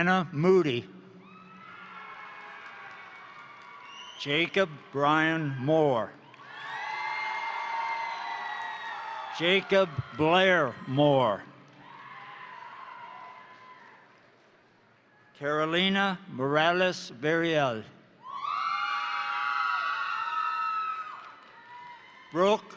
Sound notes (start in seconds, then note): 1.2 crowd applauding; 1.4 crowd cheering; 6.9 crowd applauding; 6.9 crowd cheering; 11.8 crowd applauding; 11.8 crowd cheering; 18.2 crowd cheering; 18.4 crowd applauding